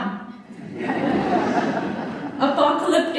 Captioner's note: laughter